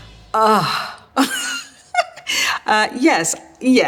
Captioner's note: giggles